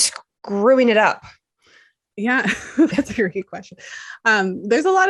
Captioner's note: chuckles